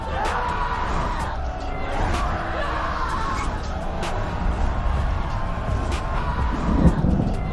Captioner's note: archangels yelling